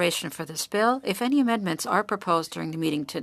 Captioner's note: speaking french